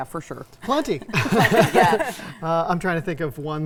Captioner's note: laughing